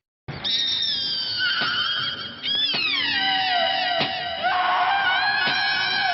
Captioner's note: knife thumping; persons screaming